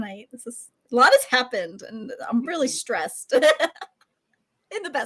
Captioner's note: laughs